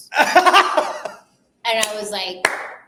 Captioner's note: laughing